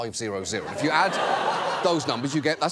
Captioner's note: studio audience laughs